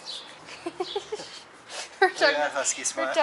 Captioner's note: laughter